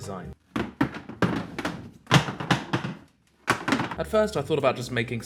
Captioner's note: sound of objects cluttering to the floor